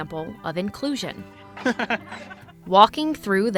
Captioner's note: laughing